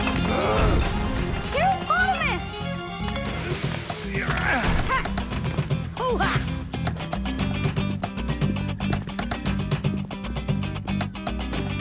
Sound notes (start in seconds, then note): 0.0 gasps; 4.0 heropotamus grunts